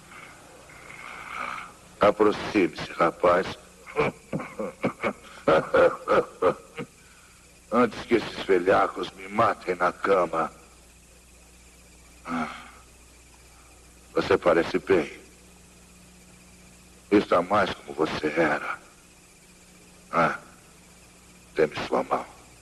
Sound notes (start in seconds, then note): 0.0 henry wheezing; 3.8 chuckles; 3.8 coughing